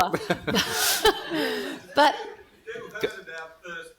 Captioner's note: laughing